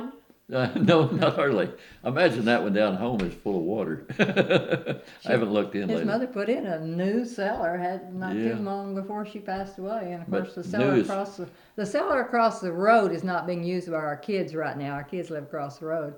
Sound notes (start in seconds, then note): 3.7 laughs